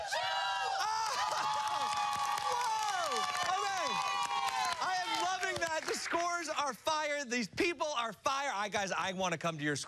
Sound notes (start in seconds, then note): 5.2 cheers